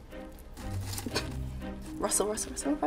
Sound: suspenseful music; papers rustling

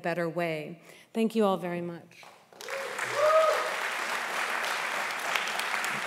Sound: audience applauding

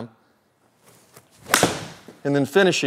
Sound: golf ball smacks; golf club whacks

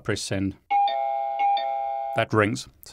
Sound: doorbell rings

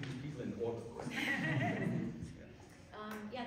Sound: laughter

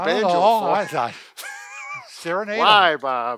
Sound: laughs

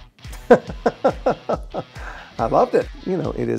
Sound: laughs

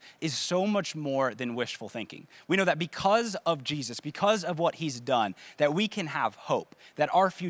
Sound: none

